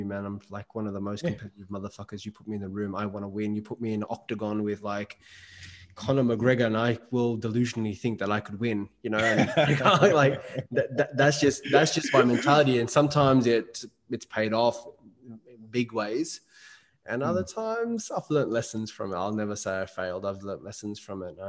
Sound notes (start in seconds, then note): 11.4 laughing